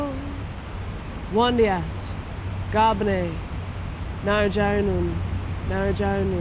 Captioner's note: speaks in Woi Wurrung traditional language